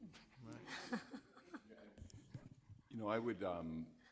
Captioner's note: audience laughing